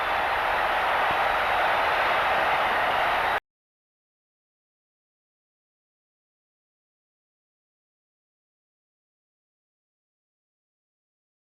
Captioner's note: crowd cheers